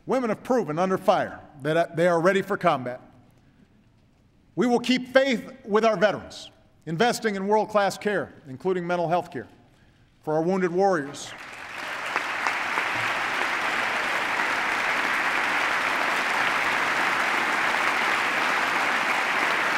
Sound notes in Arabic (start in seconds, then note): 11.0 تصفيق